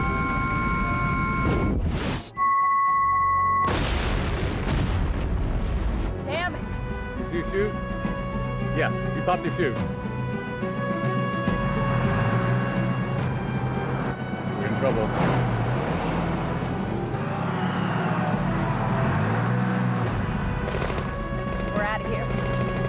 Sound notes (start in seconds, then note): 3.6 explosion booms; 12.8 engine revving; 20.6 gun firing